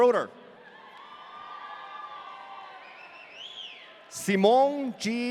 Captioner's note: audience cheering